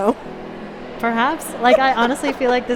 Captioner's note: laughter